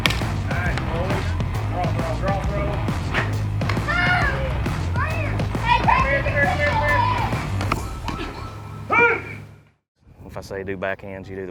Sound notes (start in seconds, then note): 3.8 cheering